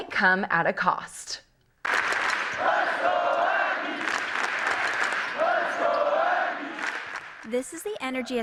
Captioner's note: chanting